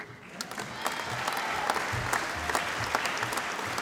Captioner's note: applause